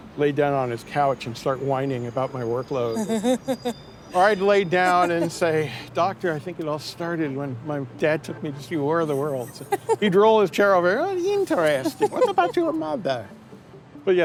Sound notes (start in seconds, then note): 4.8 laughs